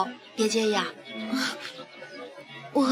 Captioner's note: Zhen laughs softly